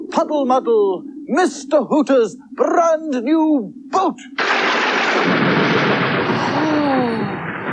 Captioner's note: sound Of Thunder